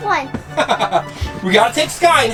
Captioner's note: announcer laughs